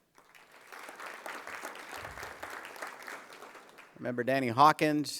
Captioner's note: applause